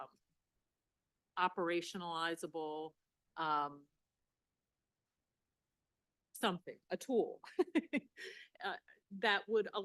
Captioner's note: laughing